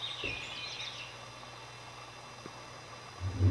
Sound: birds chirping

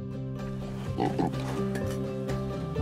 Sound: oink

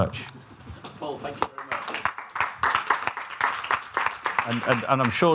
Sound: applause

